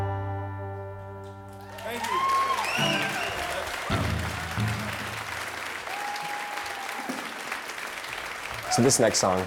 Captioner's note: applause